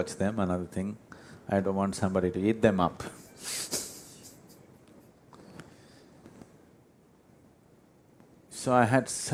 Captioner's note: laughs